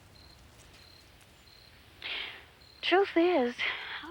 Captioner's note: crickets chirping